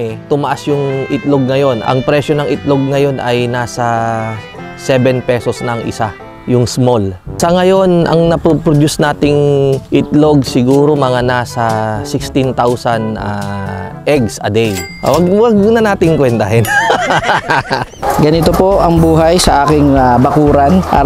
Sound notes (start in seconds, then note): 16.6 laughs